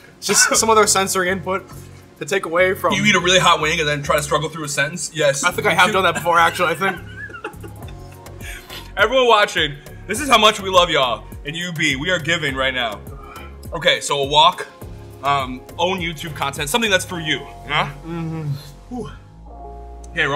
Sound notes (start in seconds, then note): 7.6 laughs